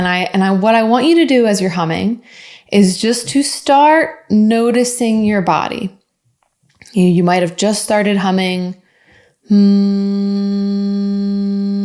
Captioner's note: hums